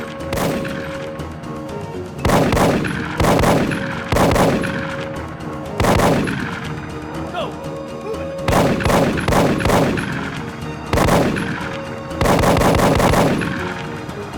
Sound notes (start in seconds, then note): 2.3 gunshots blasting; 8.4 gunshots blasting